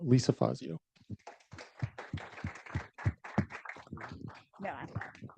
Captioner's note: audience applauding